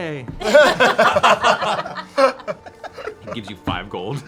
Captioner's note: laughter